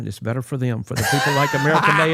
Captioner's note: Cody laughs